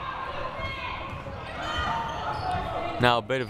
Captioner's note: crowd cheering